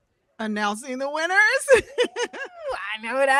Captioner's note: laughs